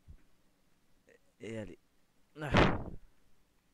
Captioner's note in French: bourrasque de vent